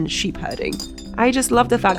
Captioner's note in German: Flaschenklirren